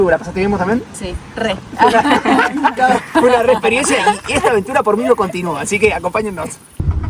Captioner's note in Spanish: risas